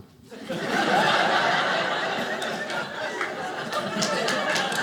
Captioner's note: audience laughing; audience applauding